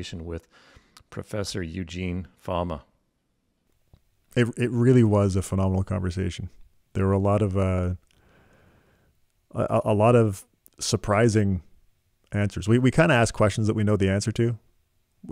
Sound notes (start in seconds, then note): none